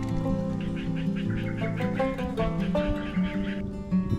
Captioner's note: frogs croak as I sprinkle salt